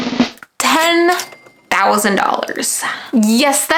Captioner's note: drum rattles; cash register chimes